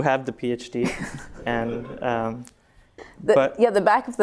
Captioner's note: laughter